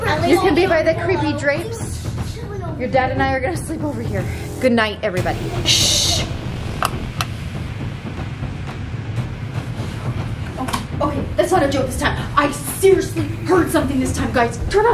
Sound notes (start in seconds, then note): 6.8 light switch clicks